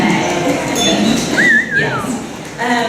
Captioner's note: whistling